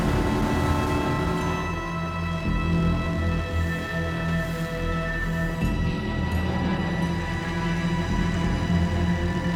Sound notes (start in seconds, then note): 0.0 boat engine humming; 5.9 intense music continues